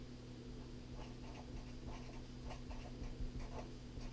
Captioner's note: pen scratching